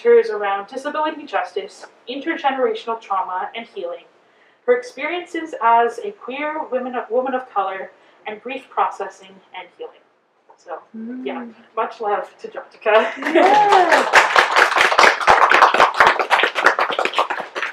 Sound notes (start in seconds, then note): 13.0 applause